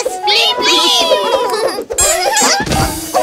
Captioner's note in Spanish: Risas